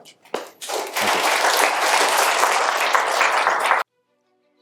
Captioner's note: applause